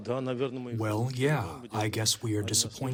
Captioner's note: through translator